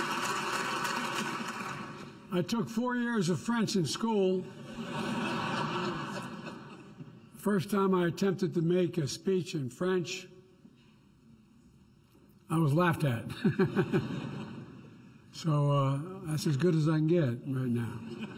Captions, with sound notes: I took four years of French in school. (Laughter.) First time I attempted to make a speech in French, I was laughed at. (Laughs.) So, that's as good as I can get right now.